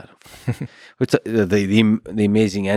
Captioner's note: Tim laughs